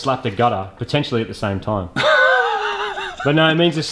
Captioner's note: snickers